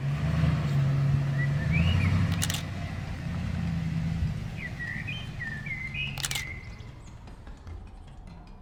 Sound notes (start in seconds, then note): 0.0 truck engine revving; 2.7 birds chirping; 2.7 camera clicks